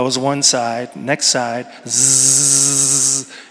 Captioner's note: imitates hair clipper buzzing